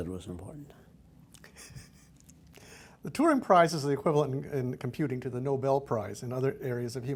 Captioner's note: laughs